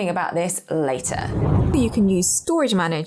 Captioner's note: air whooshing